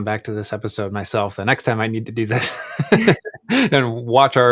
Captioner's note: laughs